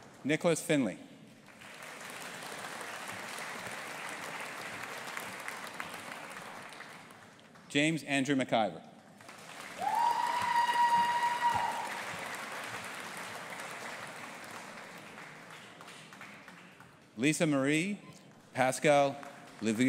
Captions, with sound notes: Nicholas Findlay. (AUDIENCE APPLAUDING) James Andrew MacIver. (AUDIENCE APPLAUDING AND CHEERING) Lisa Marie Pascal Louvieaux.